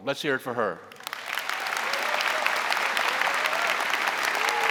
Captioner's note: audience applauding